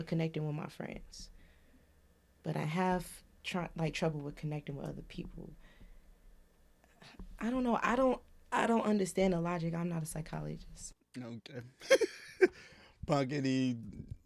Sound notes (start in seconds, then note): 11.8 laughs